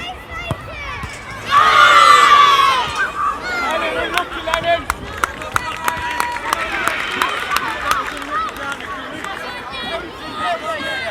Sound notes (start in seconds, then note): 1.5 jubilant cheers; 4.8 applause